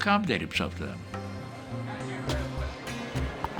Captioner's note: people talking in background